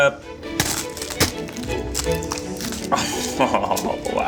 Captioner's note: cone cracks